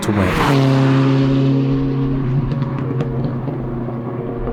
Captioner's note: engine roaring